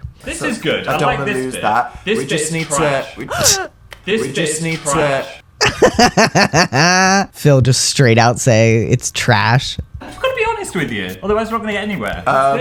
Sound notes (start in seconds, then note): 5.6 laugh